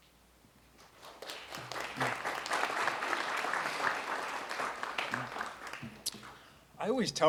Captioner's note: audience clapping